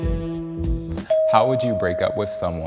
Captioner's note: bell dings